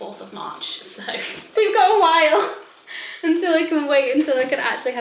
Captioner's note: chuckles